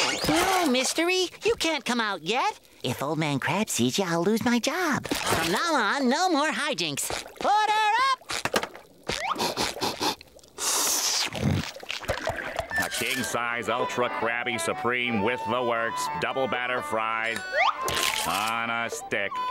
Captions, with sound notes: No Mystery, you can't come out yet. If old man Krab sees you, I'll lose my job. From now on no more hi-jinks. Order up! [sniffing] King size ultra Krabby supreme with the works, double batter fried on a stick.